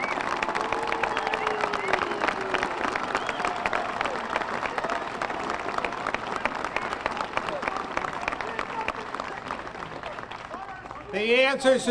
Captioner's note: applause; cheers and boos